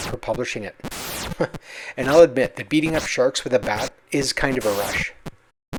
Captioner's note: chuckles